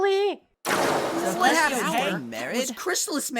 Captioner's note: they chatter